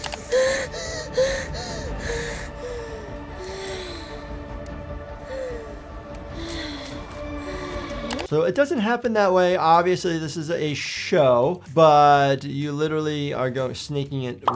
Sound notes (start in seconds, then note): 0.0 driver gasping; 3.2 driver's breathing slows